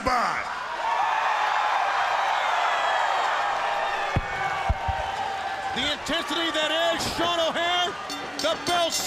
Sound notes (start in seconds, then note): 2.3 crowd cheering; 7.9 bell ringing